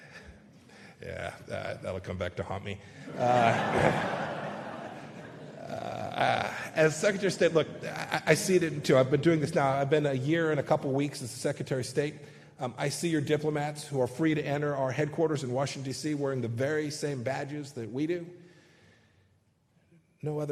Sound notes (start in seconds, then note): 3.0 laughter